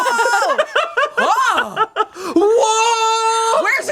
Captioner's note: everyone laughs